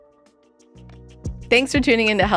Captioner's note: Healthy Canadians logo with pulse sound